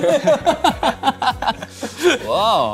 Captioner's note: haha